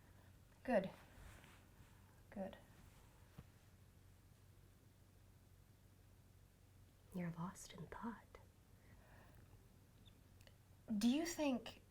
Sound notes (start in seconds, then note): 1.7 lower tone